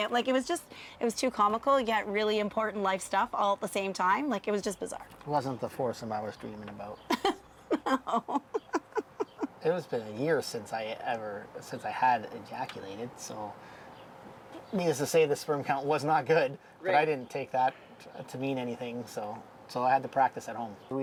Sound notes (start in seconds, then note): 7.1 laughing